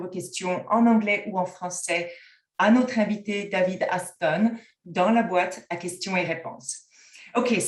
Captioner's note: french